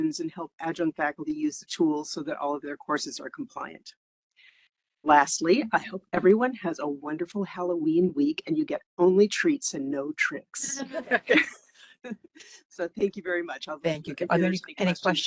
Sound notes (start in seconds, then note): 10.7 laughing